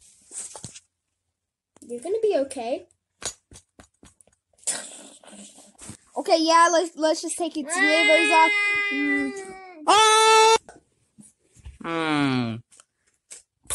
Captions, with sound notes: You're gonna be okay. Okay yeah, let's just take its nibbles off. [Hamster Screaming]